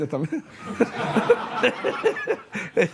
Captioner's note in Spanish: Risas